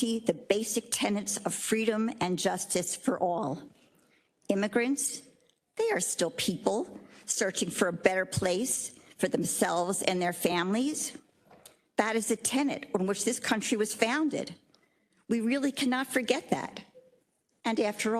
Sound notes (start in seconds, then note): none